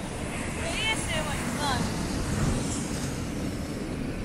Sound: wave sound like ASMR

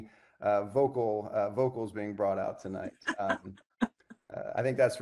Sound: laughing

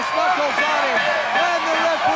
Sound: bell ringing

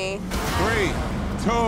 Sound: dramatic music; scene whooshing

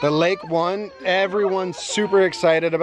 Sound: child cries

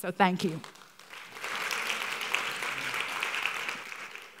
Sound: applause

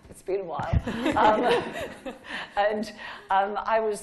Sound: laughing

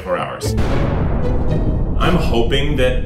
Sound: dramatic sound effect

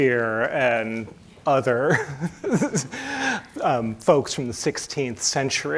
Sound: chuckles

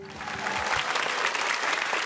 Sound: cheers and applause

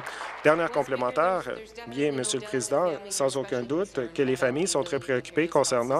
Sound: applause

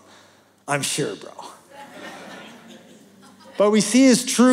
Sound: laughter

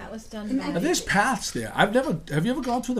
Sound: voiceover

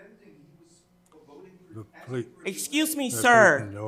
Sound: speaks faintly

